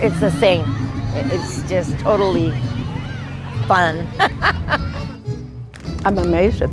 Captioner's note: laughs